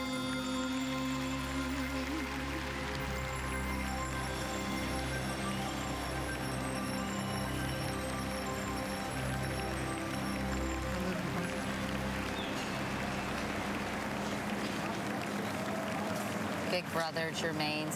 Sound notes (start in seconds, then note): 4.5 apapplplauausese